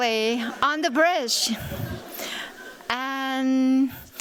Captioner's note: laughter